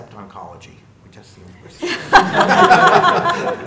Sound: laughter

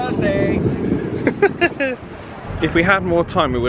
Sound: laughs

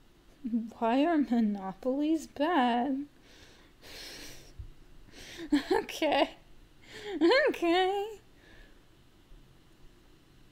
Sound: laughing awkwardly

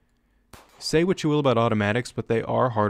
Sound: gunfire

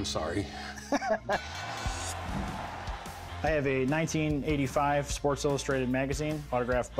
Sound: laughs

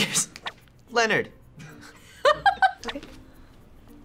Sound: laughs

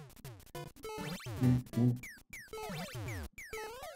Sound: humming along

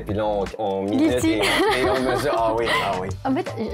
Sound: laughs

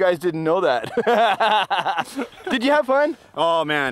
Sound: laughing

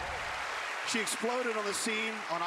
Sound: cheering

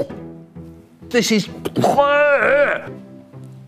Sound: vomits

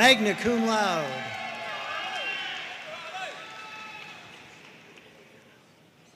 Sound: audience cheering and applauding

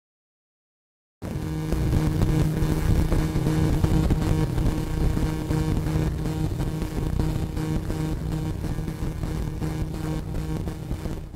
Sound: sound of static noise

